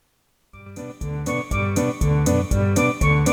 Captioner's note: arguing